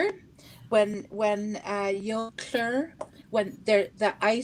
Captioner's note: speaking Indigenous language